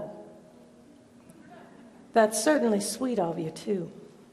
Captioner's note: light audience laughter